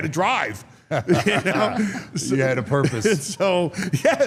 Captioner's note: laughs